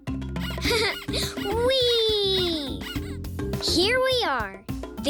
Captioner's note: laughs